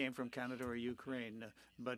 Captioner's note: speaking French